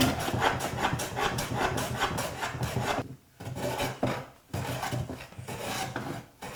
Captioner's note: plane on wood continues rhythmically scraping